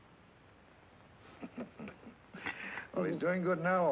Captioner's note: Red chuckling